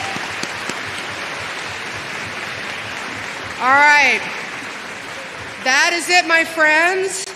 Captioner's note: applause